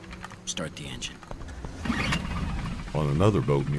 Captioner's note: boat motor starts